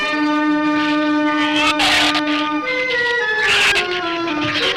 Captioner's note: shrew snarls